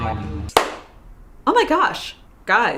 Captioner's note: clap